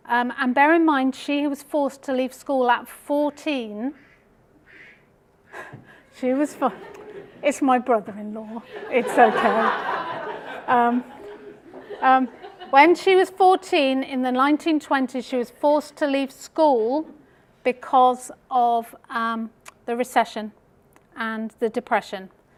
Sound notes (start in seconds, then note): 5.6 phone ringing; 8.6 laughter